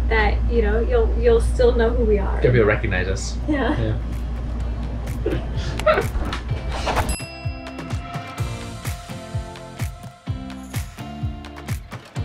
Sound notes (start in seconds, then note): 3.5 laughs